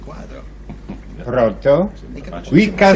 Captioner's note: back ground conversation